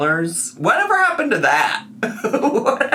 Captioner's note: laughs